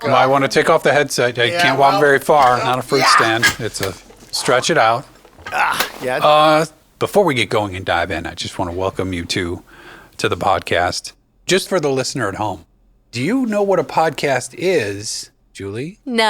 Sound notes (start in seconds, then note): 5.2 groans